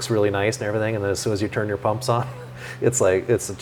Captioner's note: laughs